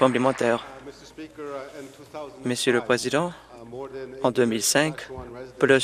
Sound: applause

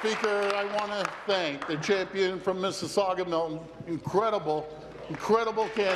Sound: applause

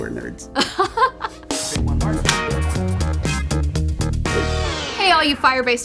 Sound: laughter

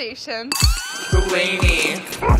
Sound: alarm blaring

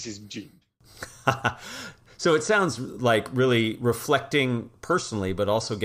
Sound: laugh

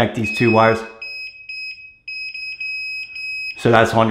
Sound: machine beeping

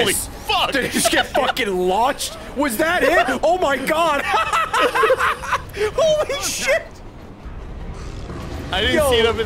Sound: laughs

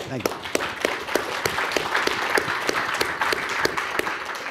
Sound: audience applauding

